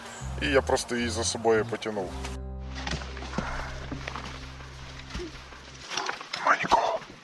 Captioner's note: steps in the woods sound